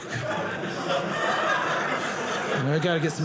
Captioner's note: audience laughing